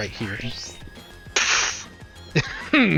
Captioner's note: makes gun noise with mouth; chuckles